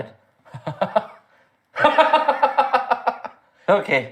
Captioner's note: Laughing ominously as Nightfrost